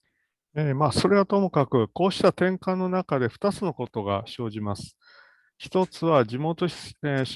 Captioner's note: speaks in Japanese